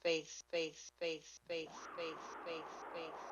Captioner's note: echoes